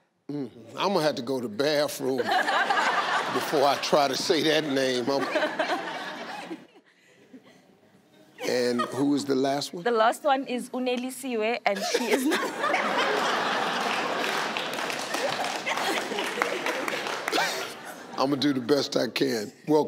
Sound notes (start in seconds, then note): 5.1 audience laughing; 11.8 Steve laughing; 11.8 audience laughing